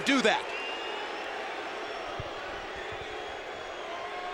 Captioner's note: crowd chattering